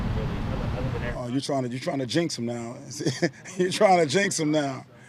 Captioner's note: laughs